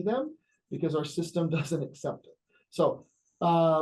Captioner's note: chuckles